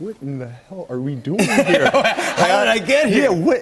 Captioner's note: laughter